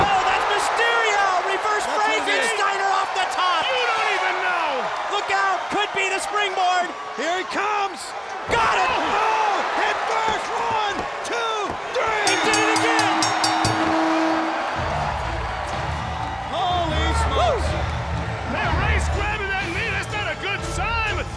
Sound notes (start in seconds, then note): 14.6 applause